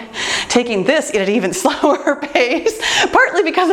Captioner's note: laughs